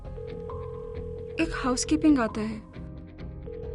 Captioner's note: phone ringing